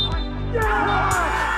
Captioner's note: referee's whistle